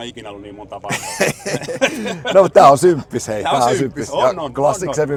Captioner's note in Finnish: naurua